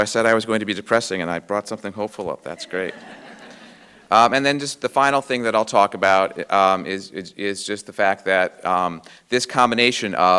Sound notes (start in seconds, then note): 2.6 audience laughing